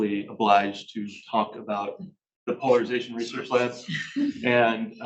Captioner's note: chuckles